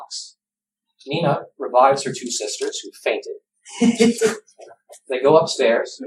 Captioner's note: laughter